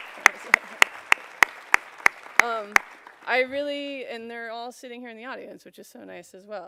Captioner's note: applause